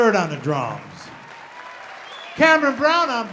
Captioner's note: audience applauding